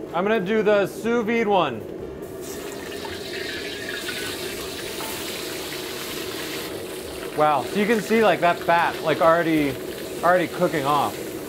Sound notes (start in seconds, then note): 3.0 grease popping; 5.8 meat searing